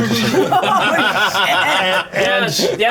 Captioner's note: laughter